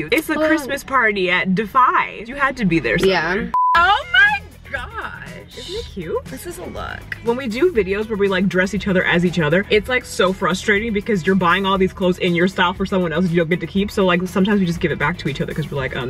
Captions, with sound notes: It's the Christmas party at DPhiE. You had to be there somewhere - Yeah. (high pitched beeping) - Oh my gosh. - Isn't it cute. - This is a look. - When we do videos where we like dress each other as each other it's like so frustrating because you're buying all these clothes in your style for someone else that you don't get to keep. So, like sometimes we just give it back to each other 'cause we're like um